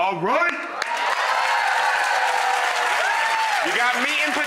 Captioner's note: audience cheers